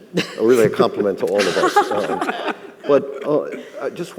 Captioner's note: all laughing